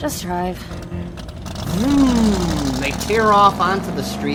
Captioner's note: engine revs